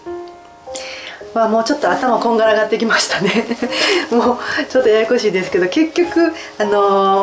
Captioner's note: laughs